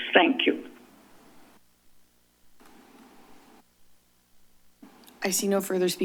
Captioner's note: silence